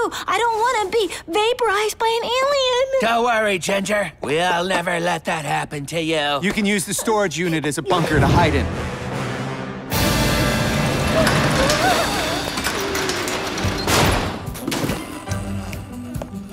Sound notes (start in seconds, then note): 11.6 whimpering